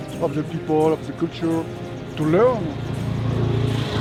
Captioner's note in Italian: Inglese